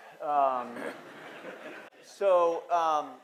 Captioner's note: audience laughing